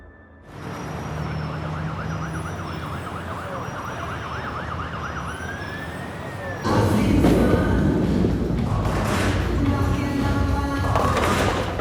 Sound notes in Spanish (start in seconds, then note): 0.1 Bullicio de la calle; 6.8 Sonido de bolos chocando